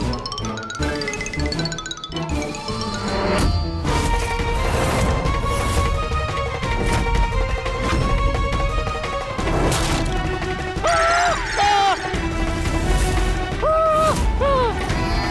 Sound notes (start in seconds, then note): 4.5 dramatic music play; 10.7 yelps; 13.5 yelps